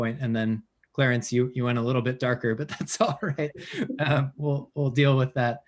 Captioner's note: laughs